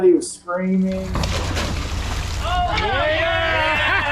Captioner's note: cheering